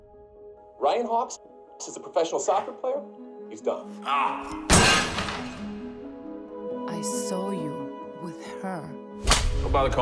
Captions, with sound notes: Ryan Hawpe, this is a professional soccer player. He's done. *Ryan grunts. Shatters the telly.* I saw you with her. *Loud slap*